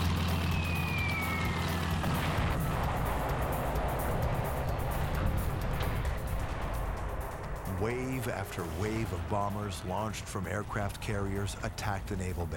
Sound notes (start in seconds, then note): 0.2 engines roaring; 2.4 bombs whistle and explode